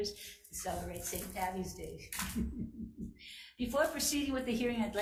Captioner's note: chuckles